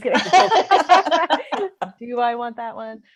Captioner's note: laughter